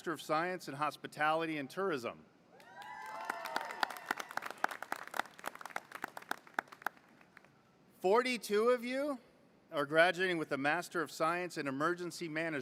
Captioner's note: applause